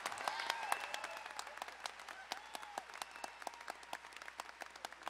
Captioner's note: crowd applauding and whistling